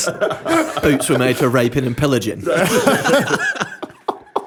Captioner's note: laughter